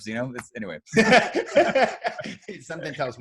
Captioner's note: laughs